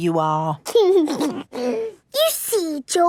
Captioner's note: giggles